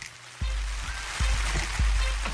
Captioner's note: audience applauding